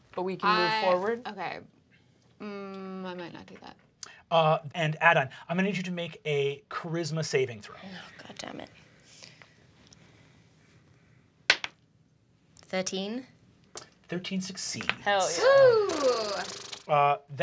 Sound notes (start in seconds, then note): 1.9 hums; 11.6 die clatters; 15.4 sighs